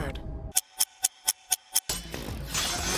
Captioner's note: reverse ticking; whirring